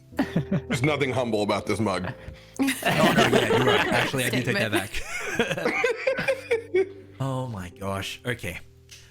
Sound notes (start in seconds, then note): 2.8 all laughter; 5.2 more giggles